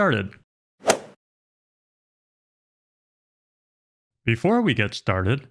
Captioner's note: golf swing sound effect